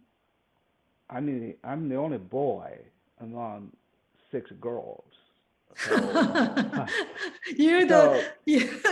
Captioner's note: laughs